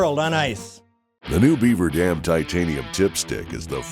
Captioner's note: voiceover